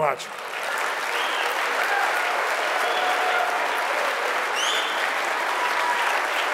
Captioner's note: audience clapping and cheering